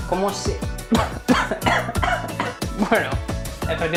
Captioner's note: coffing